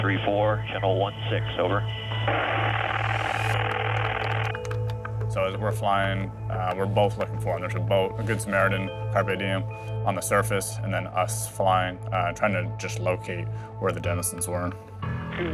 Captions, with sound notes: (static buzzing) (keys typing) - So as we're flying we're both looking for them, and there's a boat, a good Samaritan, Carpe Diem on the surface and then us flying, trying to just locate where the Dennisons were.